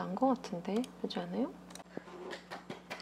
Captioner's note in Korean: 박수